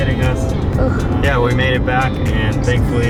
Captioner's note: groans